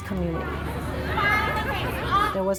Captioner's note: crowd Walla